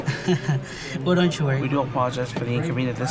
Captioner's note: chuckling